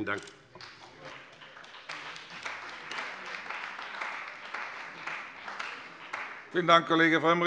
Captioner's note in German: Beifall bei dem BÜNDNIS 90/DIE GRÜNEN und der CDU